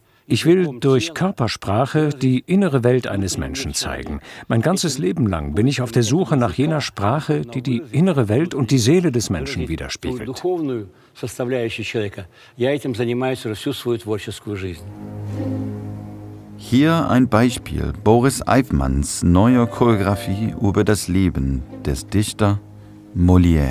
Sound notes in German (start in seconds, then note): 11.5 Er spricht auf Russisch fertig; 15.1 Düstere Musik